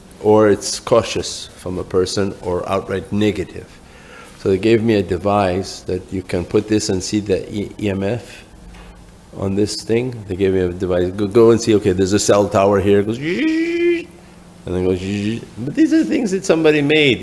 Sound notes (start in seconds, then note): 13.4 higher-pitched buzzing; 15.1 buzzing